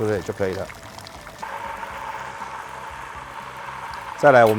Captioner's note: machine whirring